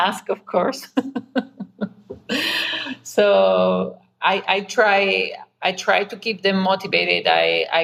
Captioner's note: laughs